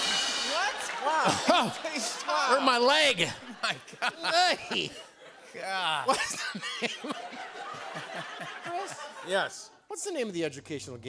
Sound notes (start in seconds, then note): 6.0 laughing